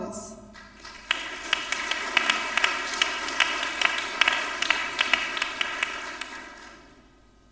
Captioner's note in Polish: oklaski